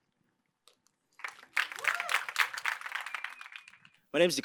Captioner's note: applause